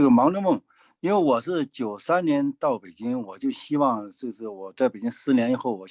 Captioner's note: speaking in foreign language